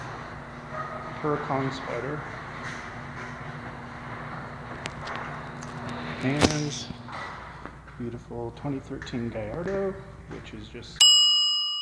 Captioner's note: bell dings as picture freezes